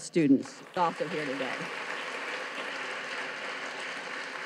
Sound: audience claps

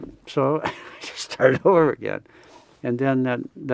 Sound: laughs

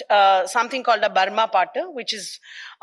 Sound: speaks in foreign language

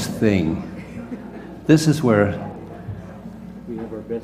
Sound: laugh

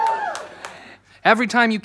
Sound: cheering

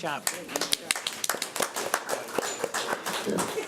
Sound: applause

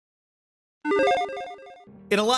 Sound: logo beeps

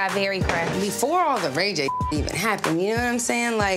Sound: beep

